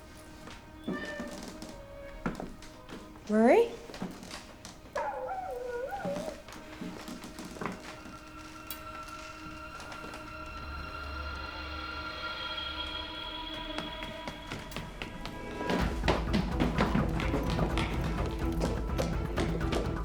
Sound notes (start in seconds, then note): 12.6 footsteps; 17.1 suspenseful music playing